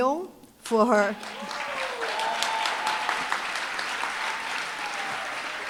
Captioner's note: applause, cheering